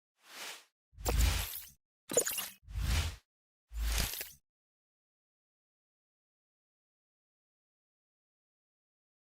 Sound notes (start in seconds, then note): 0.1 logo whooshing